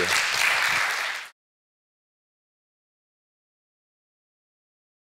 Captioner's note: audience applauding